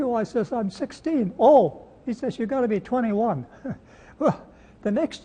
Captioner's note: chuckles